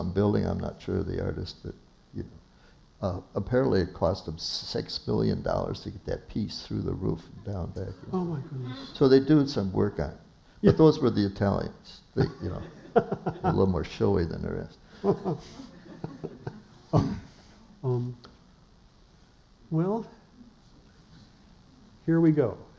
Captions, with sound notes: I'm not sure of the artist, but, you know, apparently it cost them six million dollars to get that piece through the roof and down in there. So, they do some work on them. But those were the Italians, you know, a little more showy than the rest. [laughter] - Well... here we go.